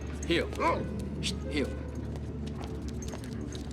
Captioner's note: barks